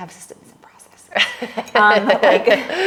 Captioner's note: laughing